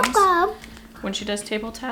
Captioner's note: vocalizes